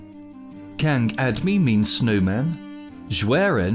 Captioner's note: foreign language